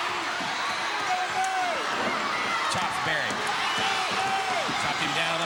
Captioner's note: blows thudding